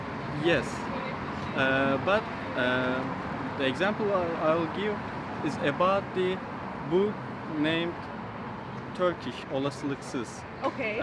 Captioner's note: in Turkish